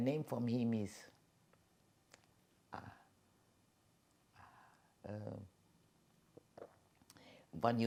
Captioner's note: pauses 6 seconds